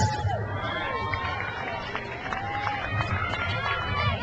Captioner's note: crowd cheers